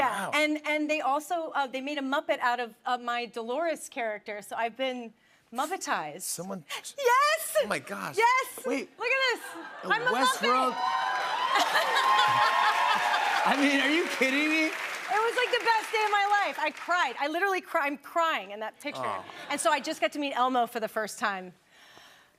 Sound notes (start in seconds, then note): 10.1 cheers and applause